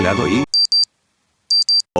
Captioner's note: clock sound